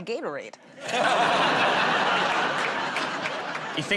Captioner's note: laughter